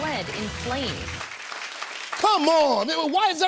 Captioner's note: applause